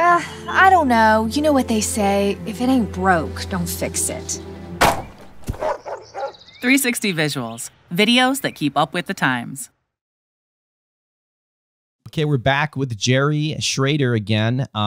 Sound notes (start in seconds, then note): 4.8 line popping; 5.5 dog barking